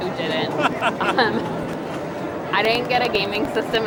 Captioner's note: laughs